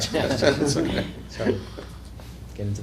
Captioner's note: laughter